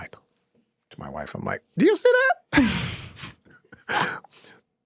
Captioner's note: laughs